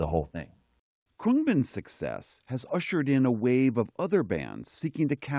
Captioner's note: voice-over